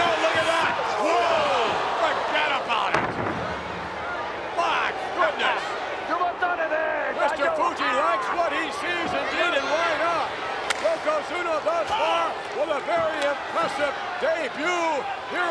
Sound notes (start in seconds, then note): 5.8 Mr. Fuji speaks Japanese; 10.7 Yokozuna claps